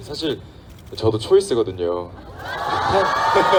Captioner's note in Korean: 함성